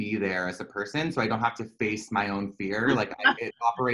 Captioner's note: laughter